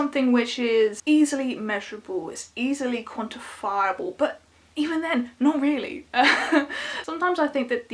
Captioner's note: chuckles